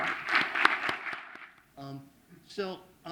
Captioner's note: applause